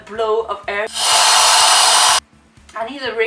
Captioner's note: regulator blowing air